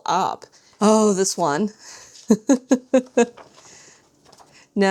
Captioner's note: laughs